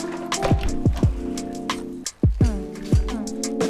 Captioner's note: door opens